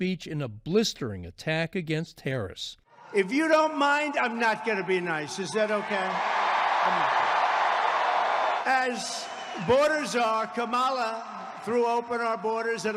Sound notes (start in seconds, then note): 6.3 crowd cheering